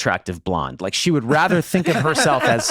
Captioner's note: Charlie, Megan laughing